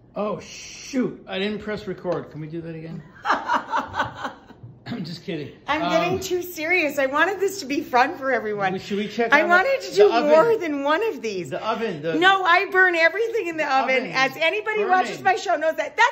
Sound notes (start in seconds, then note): 3.2 laughing